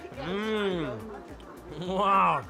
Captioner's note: groans with pleasure